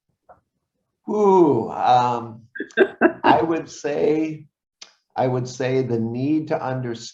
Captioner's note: laughs